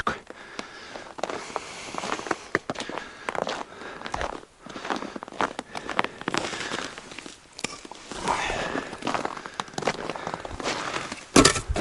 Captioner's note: sound of footsteps; sound of falling logs